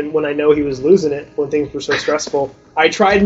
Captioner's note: interviewer laughs